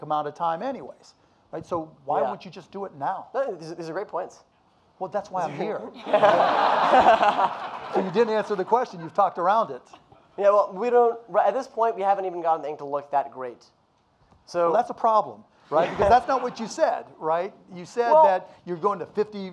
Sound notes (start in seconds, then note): 6.0 audience laughing